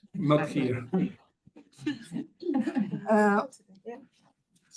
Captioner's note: attendees laughing